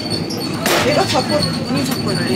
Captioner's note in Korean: 콰앙